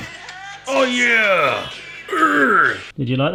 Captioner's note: groans